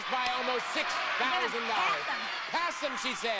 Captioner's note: audience cheering